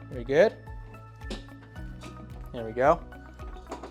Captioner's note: table clatters